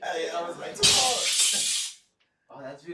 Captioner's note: crash